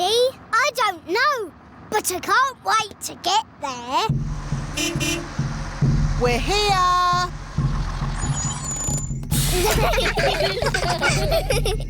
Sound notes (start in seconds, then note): 4.4 horn beeps; 9.4 children giggling